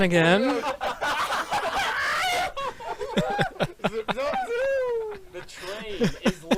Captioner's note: all of them except laugh